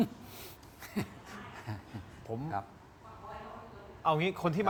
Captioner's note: laughs